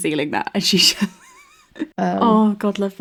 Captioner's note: laughing